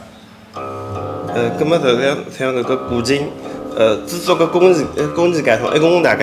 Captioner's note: wu Chinese